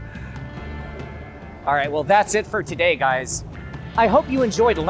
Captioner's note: laughs